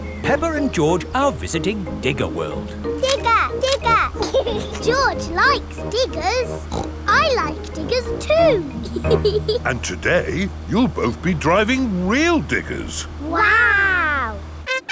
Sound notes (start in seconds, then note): 3.7 laughs; 6.6 snorts; 7.8 laughs